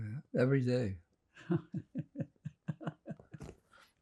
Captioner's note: laughing